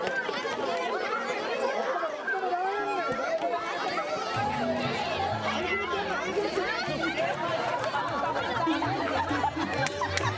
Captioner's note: yelling, laughter